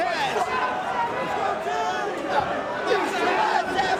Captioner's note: spectators cheering